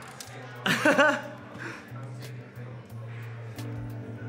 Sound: laughs

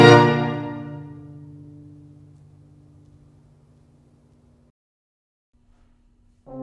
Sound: silence

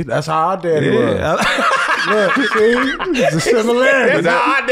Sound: laughs

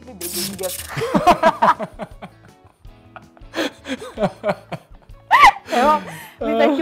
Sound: laugh

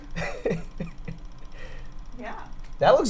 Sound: laughs

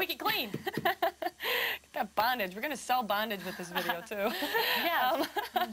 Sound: laughs

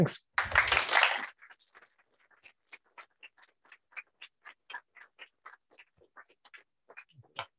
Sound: applause

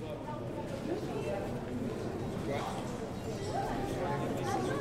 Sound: general chatter

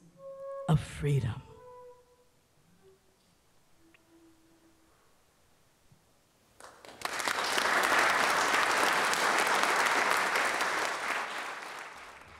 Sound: applause

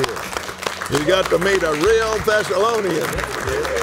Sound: applauds

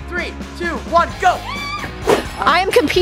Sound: screaming

